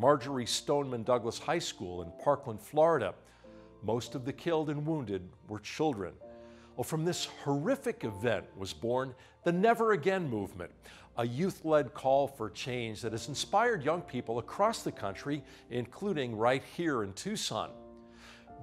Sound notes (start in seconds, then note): none